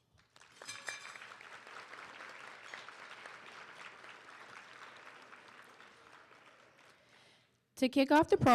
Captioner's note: applause